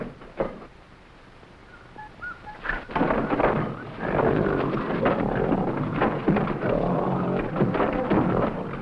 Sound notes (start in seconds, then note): 3.3 trap door clanking; 3.9 gorilla grunting